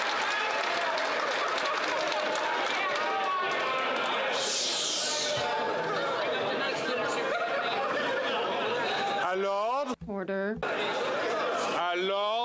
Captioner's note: some Applause